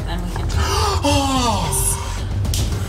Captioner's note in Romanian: respiră adânc